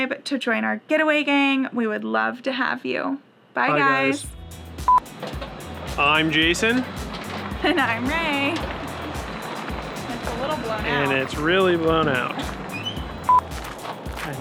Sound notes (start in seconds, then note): 4.8 beep